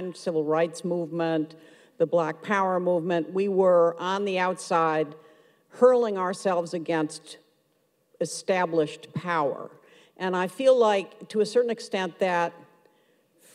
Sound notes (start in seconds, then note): none